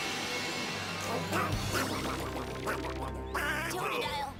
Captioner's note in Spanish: emocionado